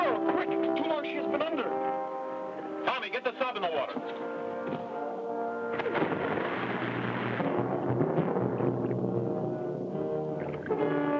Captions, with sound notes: - The girl, quick! Too long she has been under! - Tommy, get the sub in the water. (water splashes) (dramatic music)